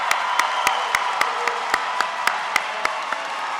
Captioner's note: applause